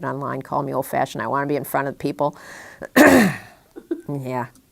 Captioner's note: chuckle